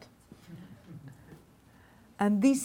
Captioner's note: laughing